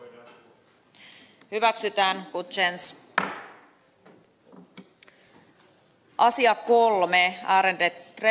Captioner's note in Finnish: nuijan kopautus